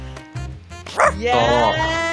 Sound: dog barking

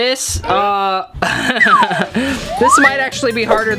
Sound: laughs

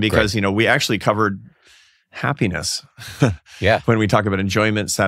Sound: laughs

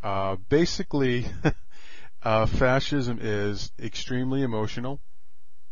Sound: laugh

